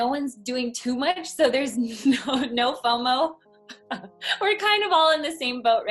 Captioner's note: laughs